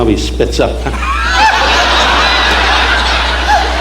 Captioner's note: audience laughing